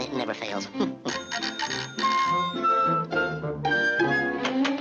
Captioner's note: doorbell ringing